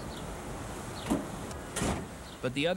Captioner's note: door slams